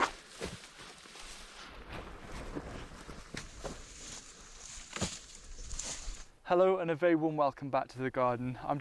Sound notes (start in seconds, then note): 0.0 rustling